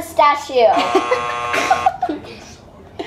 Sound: buzzer buzzing; laughing

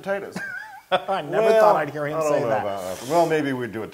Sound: laugh

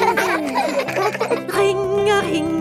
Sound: giggling

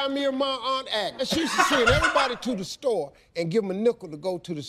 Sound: laughs

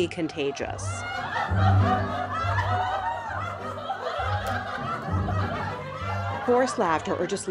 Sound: group laughter

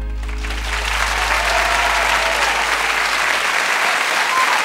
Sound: crowd cheering

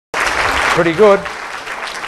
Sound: applause

